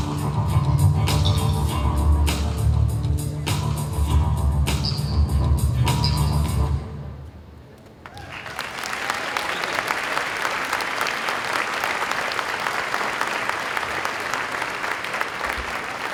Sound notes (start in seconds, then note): 8.0 applause